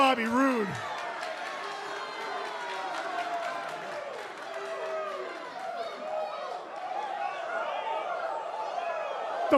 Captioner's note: crowd cheering